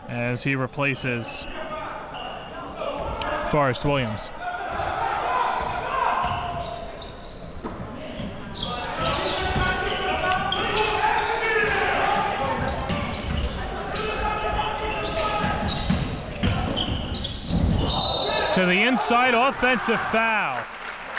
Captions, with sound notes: As he replaces Forrest-Williams. (crowd cheering) (whistle blows) To the inside, offensive foul.